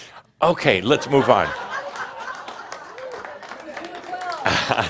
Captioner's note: laughter